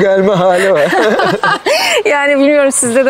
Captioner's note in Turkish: Gülüşmeler